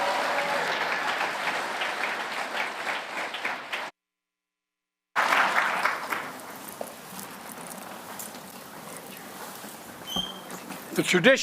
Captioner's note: applause